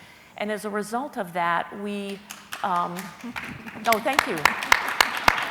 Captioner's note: clapping